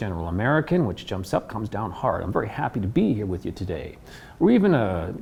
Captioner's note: in North American accent